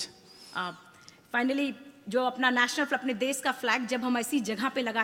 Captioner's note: speaks foreign language